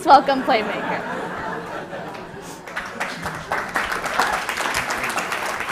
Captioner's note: laughter, applaus